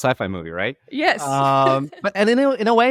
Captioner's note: laughing